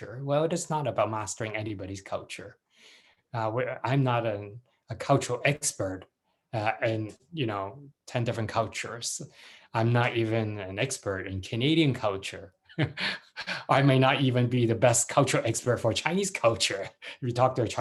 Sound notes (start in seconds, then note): 12.7 chuckles